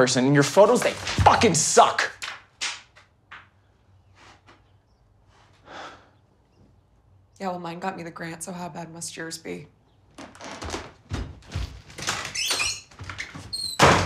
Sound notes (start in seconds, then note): 5.6 Tyler sighs; 12.2 door creaks